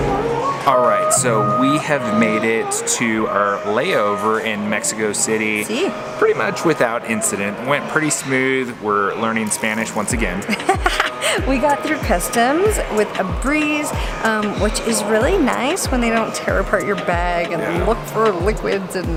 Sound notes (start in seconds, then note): 10.4 laughs